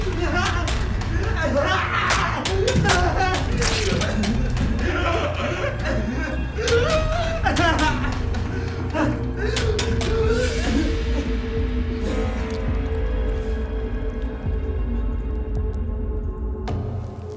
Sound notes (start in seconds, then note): 3.8 Alistair continues screaming; 3.8 blood squelching; 12.6 blood pattering; 12.6 flesh squelching; 17.2 bedding rustling